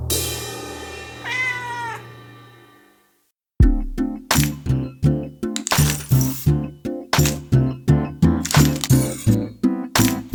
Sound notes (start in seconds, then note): 0.0 cymbal crashes; 1.2 cat meows; 3.6 gentle upbeat music